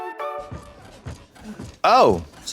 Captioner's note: bright music; bed creaking